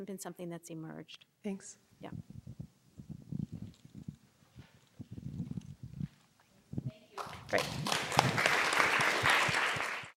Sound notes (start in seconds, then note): 7.2 applause